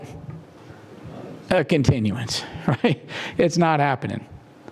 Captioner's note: laugh